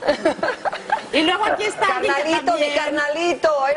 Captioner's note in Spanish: risas